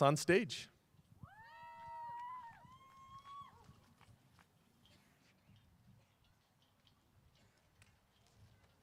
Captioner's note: applause